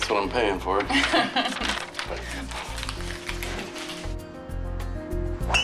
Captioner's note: cashier laughs